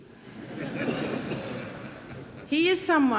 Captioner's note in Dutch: publiek lacht